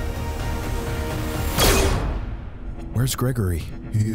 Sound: gun whizzing

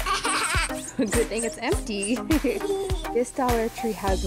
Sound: laughing; giggling

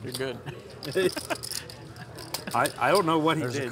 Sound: laughing

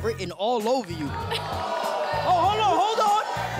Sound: audience groans

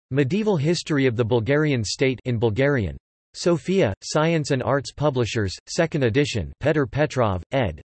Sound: in Bulgarian

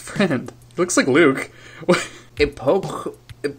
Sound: laughs

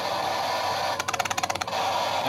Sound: static sounds

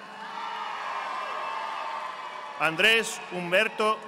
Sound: audience applauding

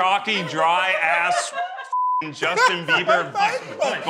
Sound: beeps

